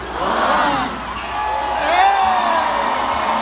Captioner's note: cheering